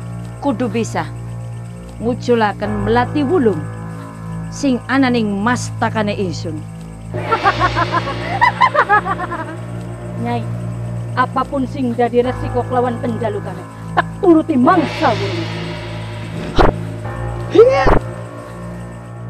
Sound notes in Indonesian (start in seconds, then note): 7.3 Dewi Ayu tertawa